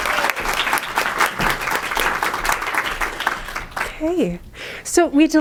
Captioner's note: applause